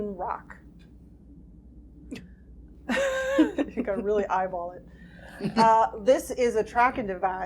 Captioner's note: laughing